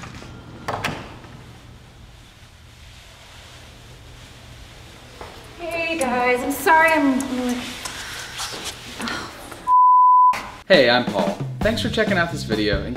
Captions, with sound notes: (door closes) - Hey guys, I'm sorry I'm la, oh f(beep). - Hey, I'm Paul, thanks for checking out this video.